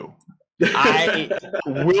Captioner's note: laughs